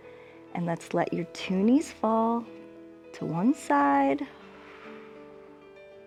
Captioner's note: exhales